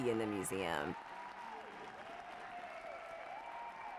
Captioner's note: people cheering